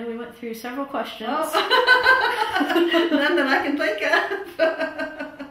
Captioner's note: laughter